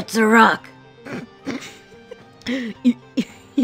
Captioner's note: poorly Contained Laughter